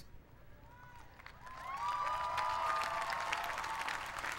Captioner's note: applause